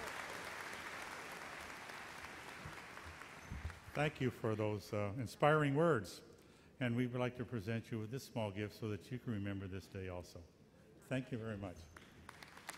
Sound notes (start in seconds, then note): 4.1 voiceover; 11.8 applause